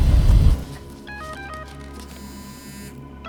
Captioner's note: cell phone